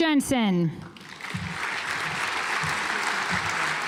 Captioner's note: audience applauds